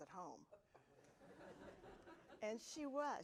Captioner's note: audience laughing